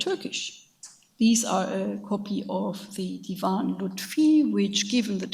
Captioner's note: speaks in a foreign language